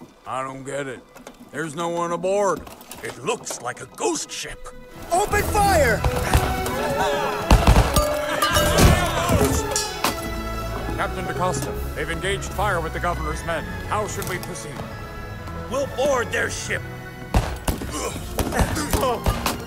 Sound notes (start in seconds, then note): 5.9 gunshots